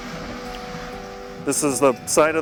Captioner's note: sound of backhoe